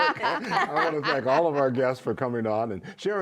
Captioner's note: laughter